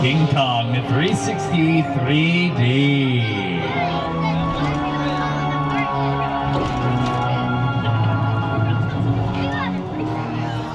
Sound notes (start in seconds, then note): 3.0 suspenseful music plays; 4.8 people talk randomly